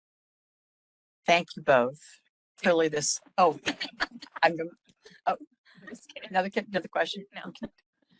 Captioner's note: laughing